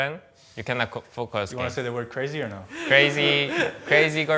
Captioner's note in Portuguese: risos